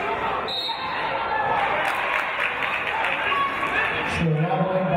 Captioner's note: referee's whistle